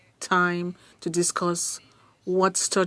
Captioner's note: speaking French